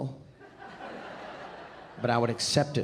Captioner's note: audience laughing